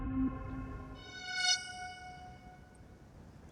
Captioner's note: screeching